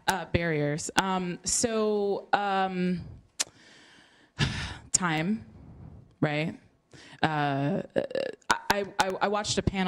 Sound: sigh

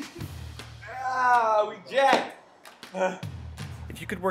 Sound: giggles; exhales

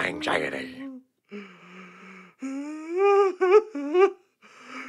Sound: crying and Whining

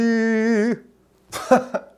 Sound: laughing

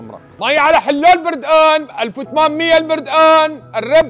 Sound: shouting popular Syrian selling words

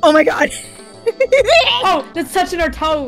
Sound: gremlin noises

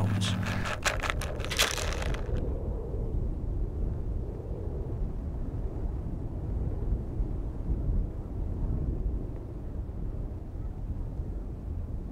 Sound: light wind blowing

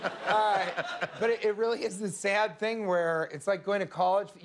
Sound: laughter

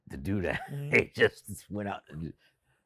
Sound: Spike laughs

